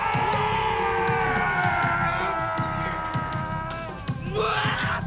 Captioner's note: yelling